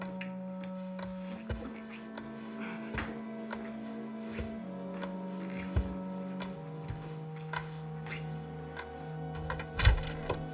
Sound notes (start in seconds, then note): 1.2 crutches thudding